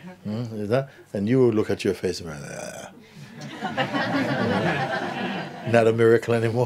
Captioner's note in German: Lachen